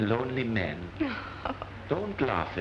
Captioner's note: laughs